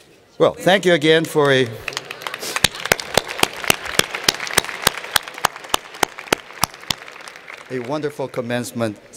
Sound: applause

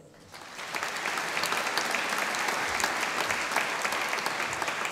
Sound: audience applauding

